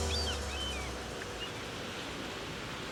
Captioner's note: bird squawking